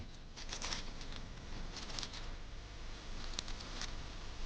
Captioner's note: leaves rustle